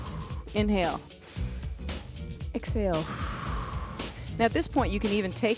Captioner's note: breath hisses; breath hisses